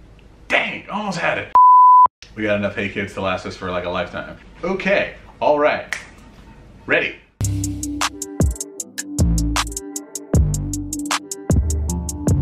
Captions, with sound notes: Dang, almost had it. (beep) We got enough hey kids to last us for, like, a lifetime. Okay. All right. Ready. (funky music)